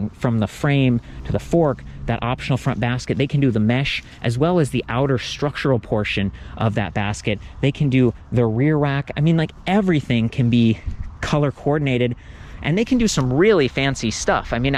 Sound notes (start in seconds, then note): none